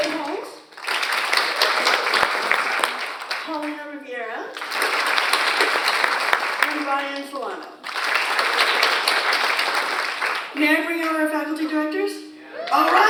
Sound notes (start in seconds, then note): 0.7 audience applauds